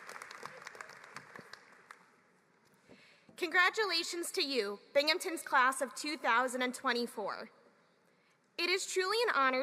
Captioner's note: applause